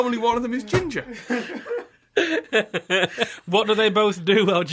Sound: laughter

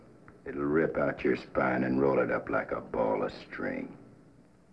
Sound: none

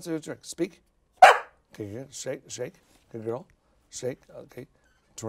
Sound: Sunny whines; Sunny barks

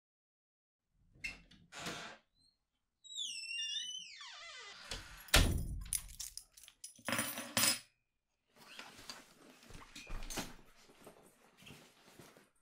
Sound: door opens and closes, keys and briefcase sounds

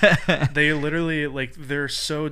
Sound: laughing

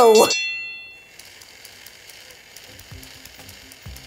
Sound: bell ringing

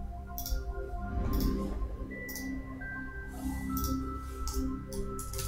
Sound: beautiful, soothing chime and bell music; mouse clicking

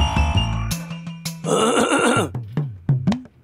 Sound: clears throat

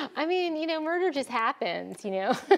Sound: laughs

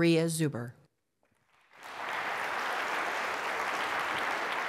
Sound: applause

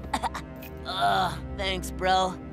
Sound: coughing; groaning

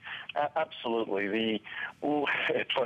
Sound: laughter

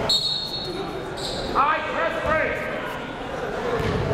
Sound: whistle blows

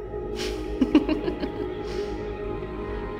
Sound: laugh

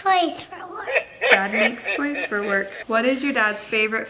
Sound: demonic laughter

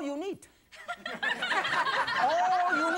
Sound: audience laughing

